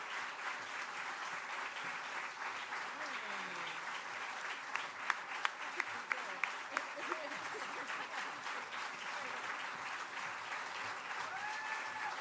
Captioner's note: applause